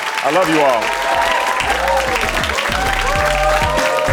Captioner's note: crowd cheering